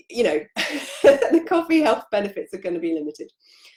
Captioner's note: laughs